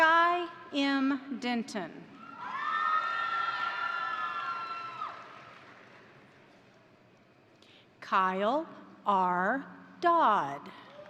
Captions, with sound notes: Skye M. Denton, (crowd cheering) (crowd applauding) Kyle R. Dodd,